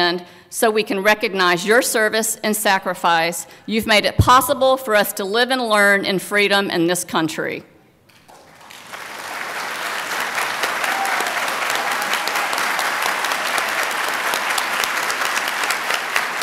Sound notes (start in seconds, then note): 8.1 applause